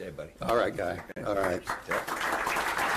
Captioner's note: applause